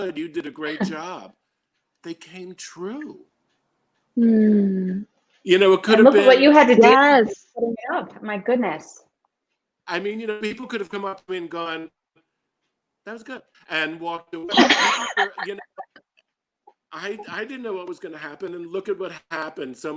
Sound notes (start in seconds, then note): 14.4 laughing